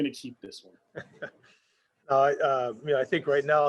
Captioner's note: chuckles